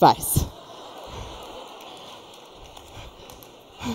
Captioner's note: laughter